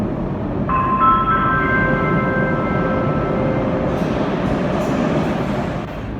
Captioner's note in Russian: прибытие поезда на станцию; сигнал о прибытии поезда